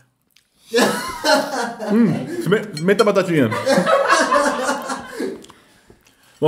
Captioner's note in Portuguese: risos